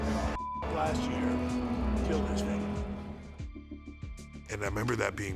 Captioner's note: beep